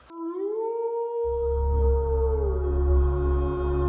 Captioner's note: werewolf howling